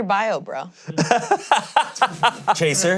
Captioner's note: laughing